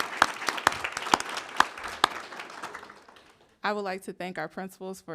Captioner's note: applause